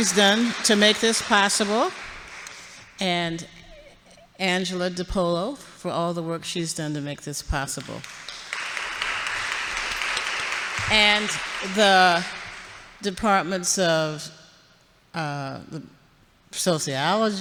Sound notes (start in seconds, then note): 8.0 audience applauds